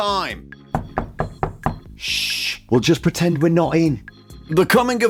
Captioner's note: knock, knock